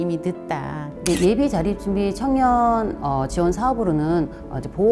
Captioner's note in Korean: 찰칵 하는 효과음